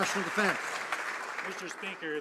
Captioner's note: some Applause